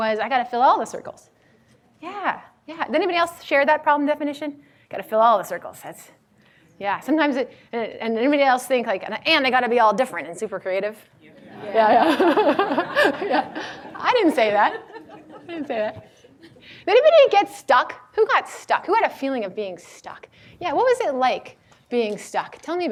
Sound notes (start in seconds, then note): 11.4 laughs